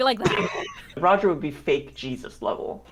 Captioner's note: laughs